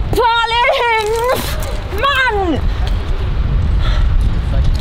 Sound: winces

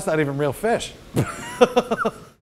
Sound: laughs

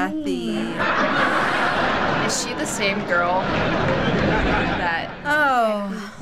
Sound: audience laughing

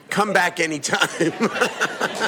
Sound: laughter

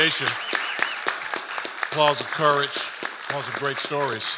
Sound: audience applauding

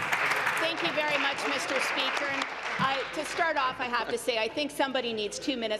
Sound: applause

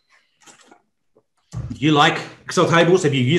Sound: mouth sips water softly

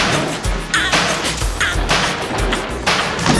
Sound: water Splashing

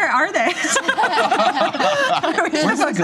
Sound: laughter

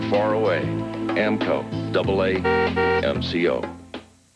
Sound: honk honk

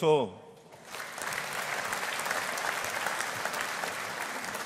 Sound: audience applauding

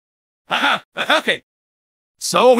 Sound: clearing throat

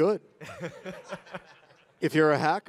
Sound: laughs

